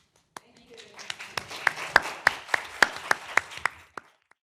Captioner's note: group applauding